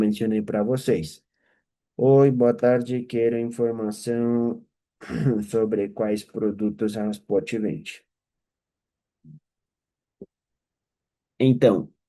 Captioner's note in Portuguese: limpando a garganta